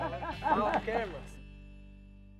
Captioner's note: boy and people laugh